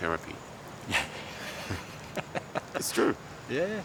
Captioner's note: both laugh